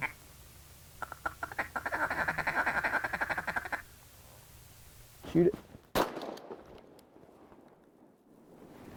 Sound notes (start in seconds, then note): 5.9 rifle bangs